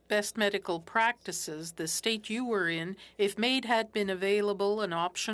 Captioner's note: speaking French